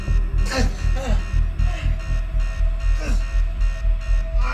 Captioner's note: moaning and grunting